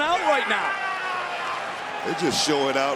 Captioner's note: crowd cheers